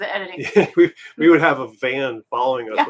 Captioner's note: laughing